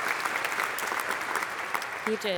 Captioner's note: applause